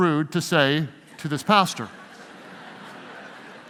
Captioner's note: audience laughing